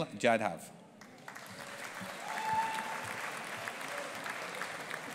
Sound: audience applauding

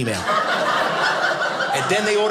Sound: audience laughing

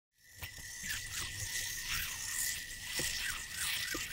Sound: yo yo spinning on string

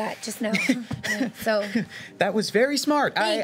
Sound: chuckling

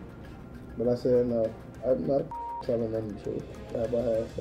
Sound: beeping

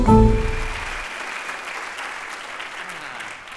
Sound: applause

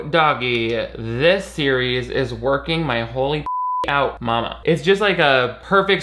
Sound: beep

